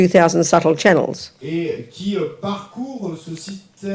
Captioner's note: audience member speaks in French